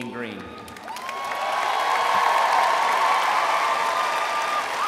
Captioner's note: crowd applauds